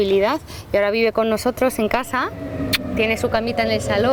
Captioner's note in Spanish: le da un sonoro beso